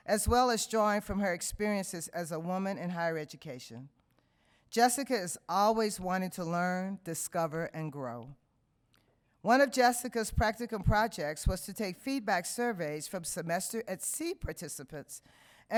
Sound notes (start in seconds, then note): none